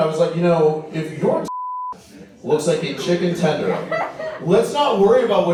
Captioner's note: beep